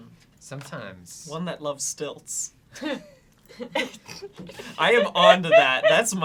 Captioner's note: laughs